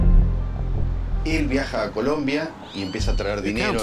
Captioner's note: Spanish spoken audio